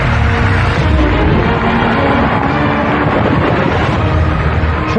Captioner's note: dramatic sound effects